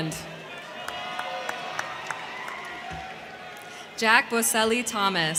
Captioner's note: crowd cheering; crowd clapping